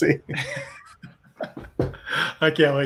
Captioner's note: laughs